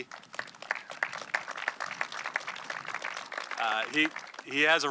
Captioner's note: audience clapping